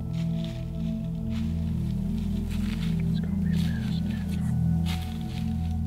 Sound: whispering

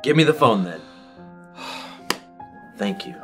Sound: sighing

